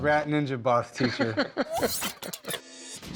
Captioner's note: laughs